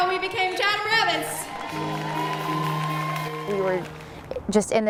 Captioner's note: audience applauding